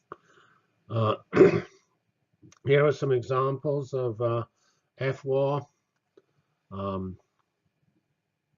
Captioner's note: cough